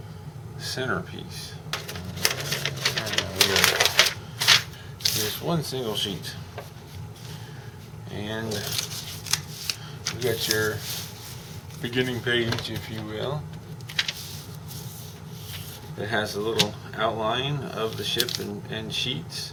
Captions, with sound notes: the center piece. [paper crinkles] Here is one single sheet. And... You've got your beginning page if you will. It has the little outline of the ship and sheets.